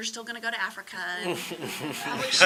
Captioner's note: audience laughing